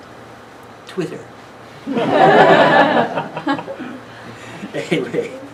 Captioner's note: laughing